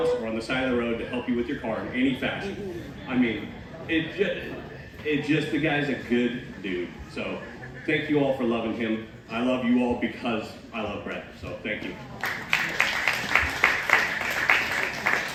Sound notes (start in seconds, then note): 12.1 applause